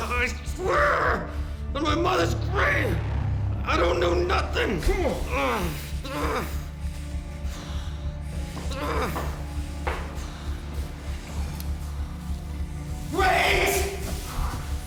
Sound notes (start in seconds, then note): 6.3 grunting